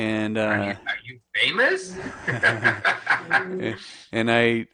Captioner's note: laughs